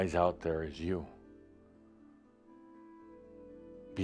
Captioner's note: none